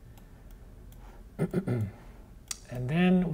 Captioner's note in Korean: 기침